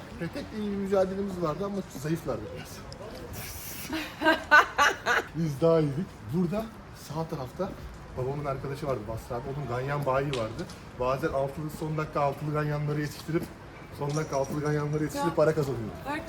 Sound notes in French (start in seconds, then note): 3.8 rires